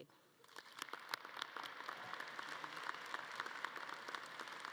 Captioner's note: audience clapping